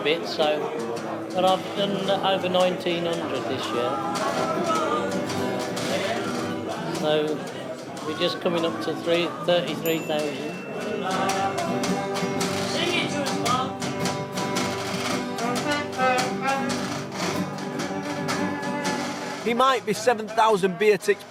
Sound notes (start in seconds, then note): 9.9 tick ping; 15.3 trumpet music